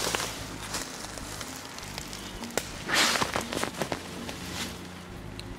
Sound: dogs snuffling

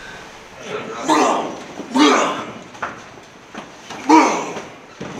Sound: grunting noises

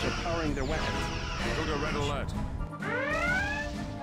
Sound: Red Alert klaxon

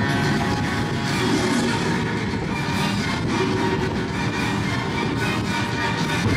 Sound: Scar roars

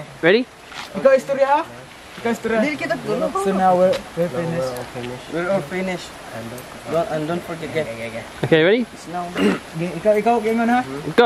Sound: talking in Filipino and practicing

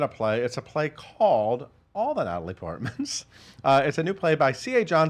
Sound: chuckles

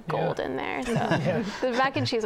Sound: laughter

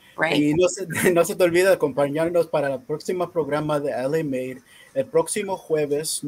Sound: speaking in foreign language

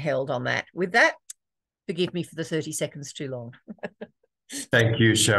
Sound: laughs

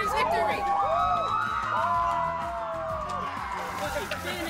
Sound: shouts

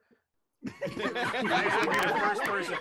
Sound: group laughing

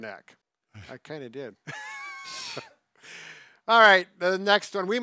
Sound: both chuckling

